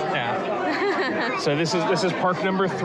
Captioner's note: laughs